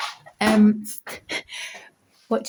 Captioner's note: laughs